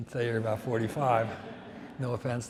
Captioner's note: audience laughs